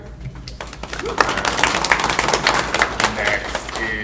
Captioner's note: panel and audience clapping